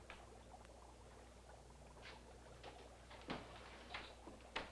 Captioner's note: liquid bubbling